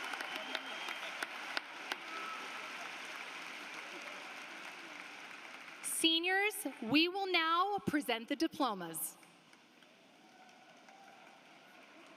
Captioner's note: applause